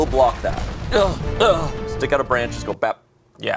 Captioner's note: grunting